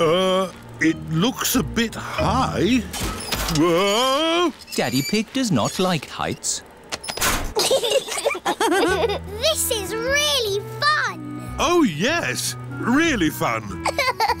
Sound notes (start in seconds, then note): 7.5 laughter